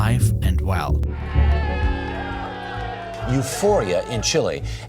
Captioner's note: people cheering